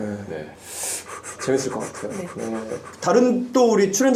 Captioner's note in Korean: 들숨 날숨